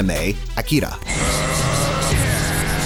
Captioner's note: groans; engine roars; engire roars